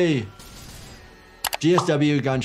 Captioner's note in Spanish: se escuchan disparos